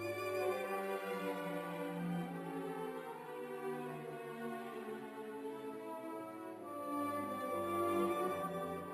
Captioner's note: none